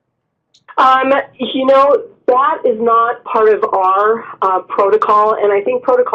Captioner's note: voiceover